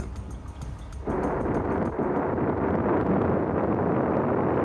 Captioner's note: rocket blasts off